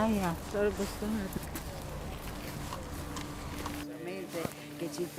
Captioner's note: speaking in foreign language